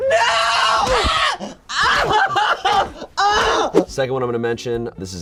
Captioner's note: screaming